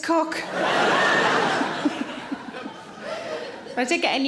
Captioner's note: audience laughs